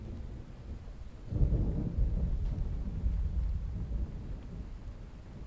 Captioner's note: thunder rolling